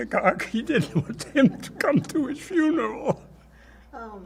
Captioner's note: laughing